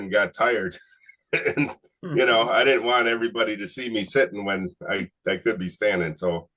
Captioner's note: laughs